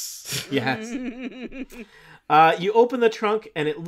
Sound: group laughing

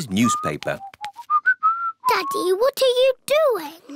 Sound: whistling

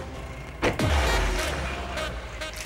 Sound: car pulling out; door closing

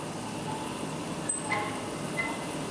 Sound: whirring, squeaking

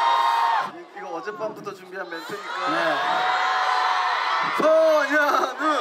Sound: cue loud applause

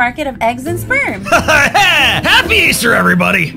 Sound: initiate awkward laugh

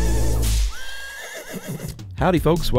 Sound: horse neighing

